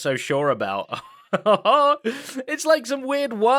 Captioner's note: laughs